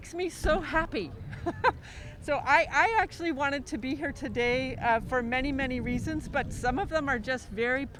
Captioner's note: laughs